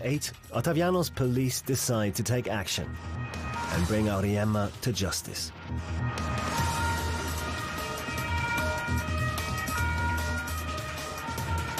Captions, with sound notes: Ottaviano's police decide to take action, and bring Auriemma to justice. (siren wailing)